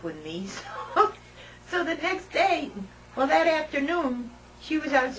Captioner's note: laughter